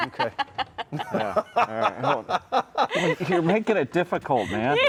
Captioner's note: laughing